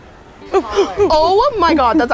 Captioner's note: grunting like a monkey